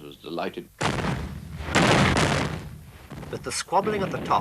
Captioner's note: mortars exploding